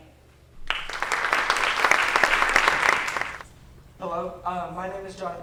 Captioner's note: applause